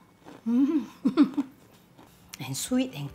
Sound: yummy exclamation

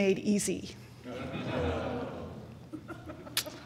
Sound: crowd chuckling

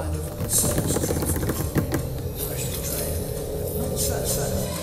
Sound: hands drumming

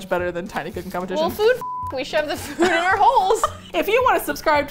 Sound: laughs

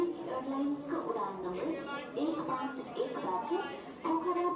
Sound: airport announcer calls

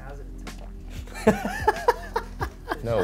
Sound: laughs

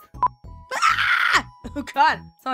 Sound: tries to scream as RD

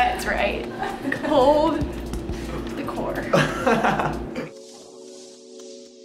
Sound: assistant laughs; calm music

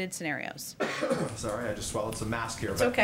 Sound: coughs

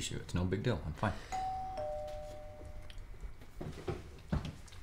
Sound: doorbell ringing

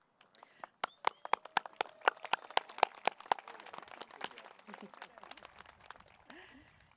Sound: applause

